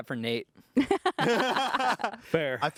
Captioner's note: everyone laughs